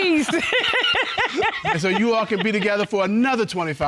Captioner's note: laughing